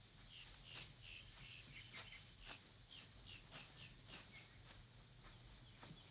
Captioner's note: insects chirping; footsteps crunching